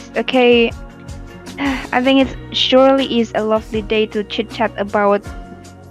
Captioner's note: sigh